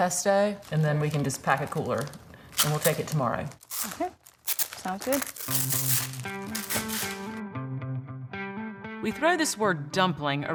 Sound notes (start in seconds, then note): 5.4 plastic rasping; 6.9 gentle guitar beat